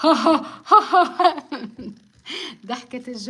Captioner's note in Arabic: ضحك